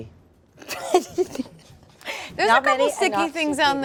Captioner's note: chuckles